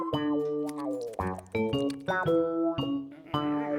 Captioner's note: nibbling